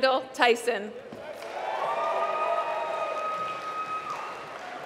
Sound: applause

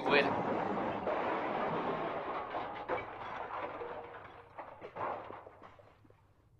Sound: car skidding outside, followed by crash

